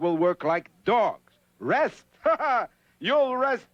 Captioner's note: laughs